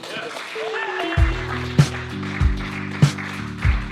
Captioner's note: applause, cheers